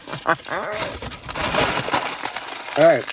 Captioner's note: laughs; bag crinkling